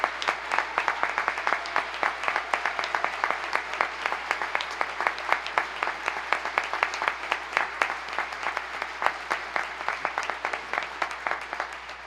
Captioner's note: applause